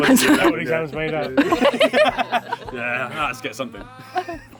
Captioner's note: laughing